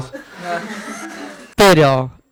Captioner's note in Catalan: rialles